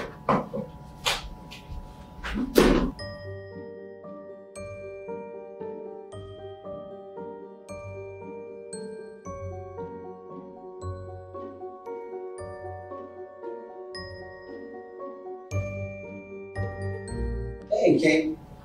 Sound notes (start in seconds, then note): 1.7 footsteps; 6.5 mysterious music